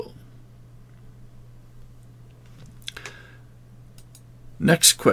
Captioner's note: silence